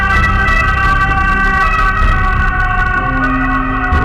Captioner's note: sirens wailing